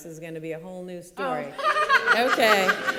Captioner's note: laughing